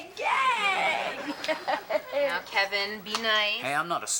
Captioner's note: Ethan laughs